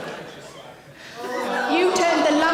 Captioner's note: audience gasp